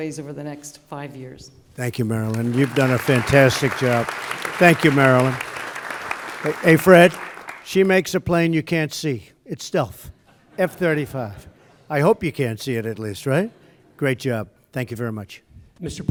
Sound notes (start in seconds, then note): 2.2 applause; 10.2 laughter